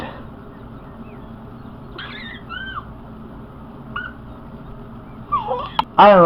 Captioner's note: baby squeals and giggles